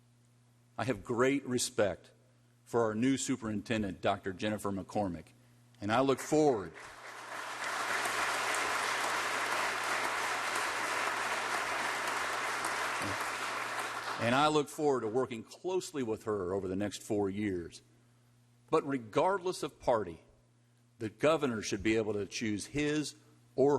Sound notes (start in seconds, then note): 13.6 applause